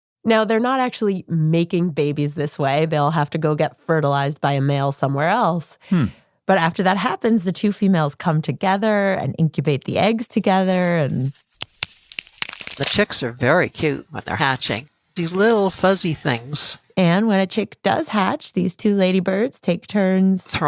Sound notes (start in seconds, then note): 11.3 cracks